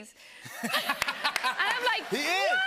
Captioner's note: laughter